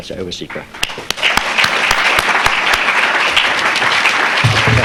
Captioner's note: audience clapping